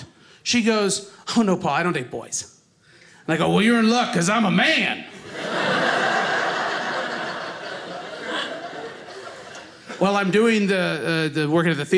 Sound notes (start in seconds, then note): 5.1 audience laughing